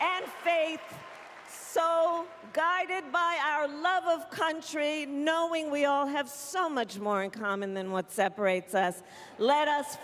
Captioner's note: cheering